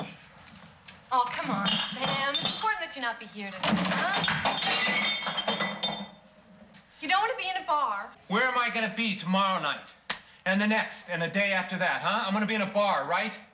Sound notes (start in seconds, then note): 3.6 glasses clattering